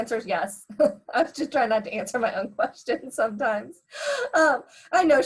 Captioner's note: laughing